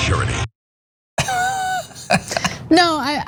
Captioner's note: laugh